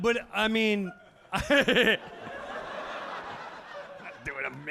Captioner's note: audience laughing